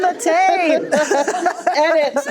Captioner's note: laughter